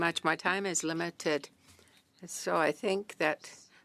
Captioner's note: speaking French